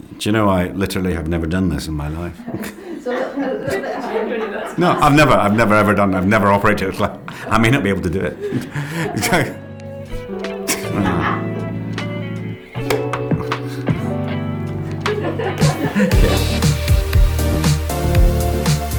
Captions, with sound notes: You know, I literally have never done this in my life. No, I've never ever done, I've never operated a clapper. I may not be able to do it. *LAUGHS* *CLAPPER CLOSES QUIETLY* *LAUGHS*